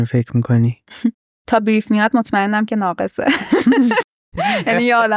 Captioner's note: laughs